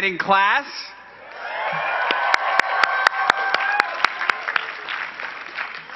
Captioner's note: cheering and clapping